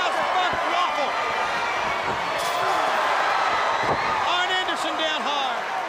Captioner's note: crowd cheering